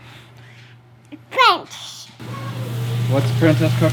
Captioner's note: mumbles